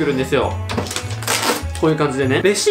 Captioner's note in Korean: 영수증을 깨는 소리